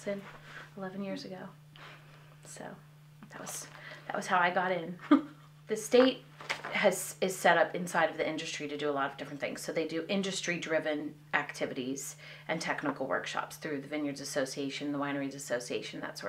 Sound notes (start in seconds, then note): 5.0 laughter